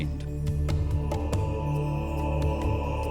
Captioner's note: men chanting; chimes